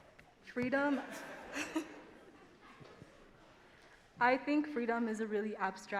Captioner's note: laughs